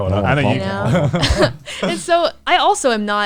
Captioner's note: murmurs